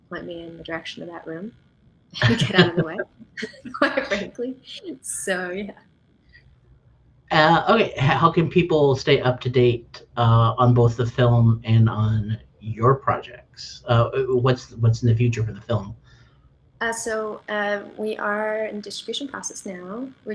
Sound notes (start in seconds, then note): 2.1 laughs